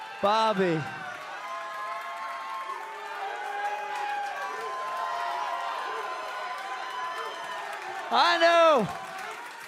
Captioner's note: crowd cheering